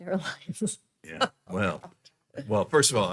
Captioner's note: laughing; laughs